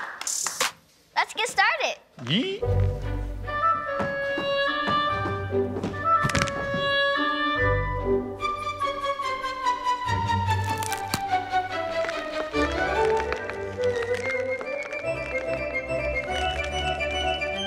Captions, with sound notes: - Stop, stop, let's get started! (classical music) (bones cracking)